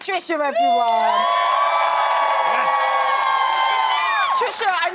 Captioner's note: crowd cheering